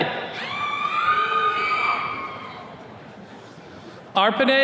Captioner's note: attendees cheering